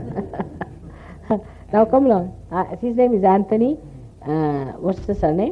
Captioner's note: laughter